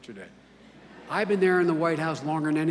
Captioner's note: laughter